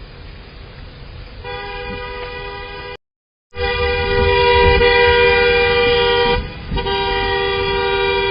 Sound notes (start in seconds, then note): 1.3 car honks horn